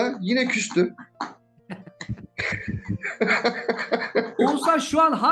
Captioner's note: laugh